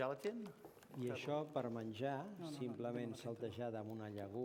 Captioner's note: non-english speech